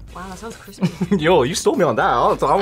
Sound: laughs

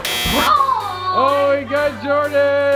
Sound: buzzer buzzes

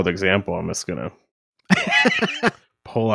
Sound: laughing

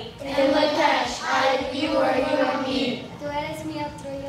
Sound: whole class speaking

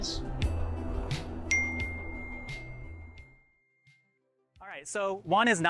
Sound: notification dinging

